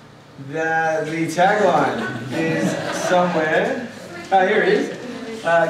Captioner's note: laughter